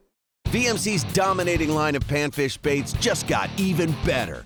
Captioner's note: voiceover